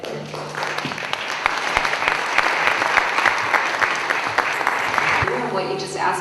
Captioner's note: applause